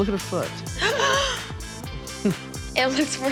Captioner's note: gasps